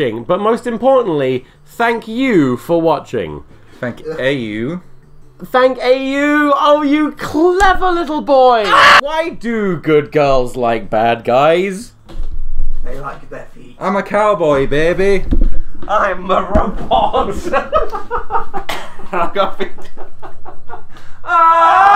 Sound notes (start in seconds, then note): 8.6 screams; 16.9 laughing